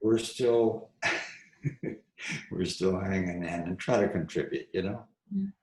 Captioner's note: laughs